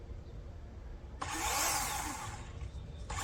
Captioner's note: chainsaw revs